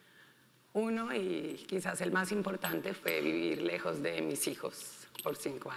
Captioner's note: speaking in foreign language